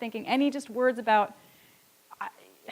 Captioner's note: none